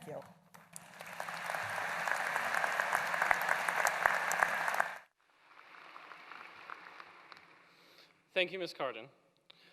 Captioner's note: applause